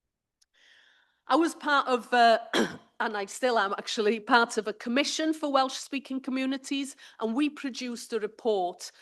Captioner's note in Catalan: s'aclareix la gola